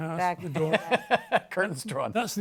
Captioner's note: laughs